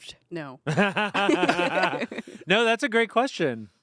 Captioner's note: everyone laughs